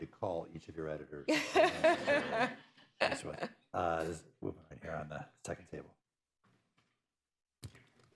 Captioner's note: laughter